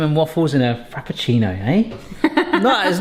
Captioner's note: laughing